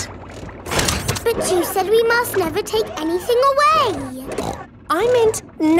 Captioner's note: snorts